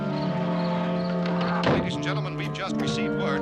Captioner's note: radio: announcer